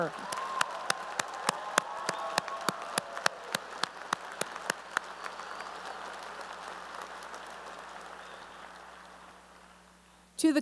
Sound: cheering and applause

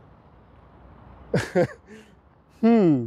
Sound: giggling

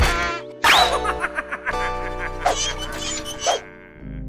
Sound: evil snickering

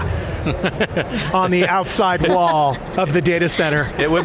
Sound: panelists laughing

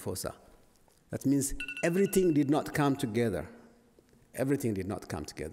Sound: alarm rings

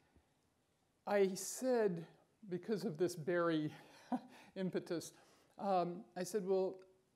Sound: chuckles

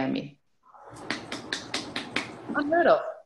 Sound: claps

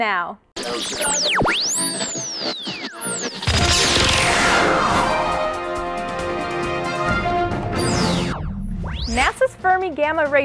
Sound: sound Effects

